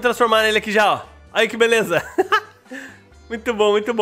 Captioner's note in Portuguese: risos